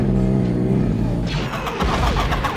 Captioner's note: camels growling; penguins squawking; laser blasts